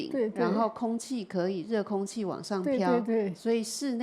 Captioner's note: Mandarin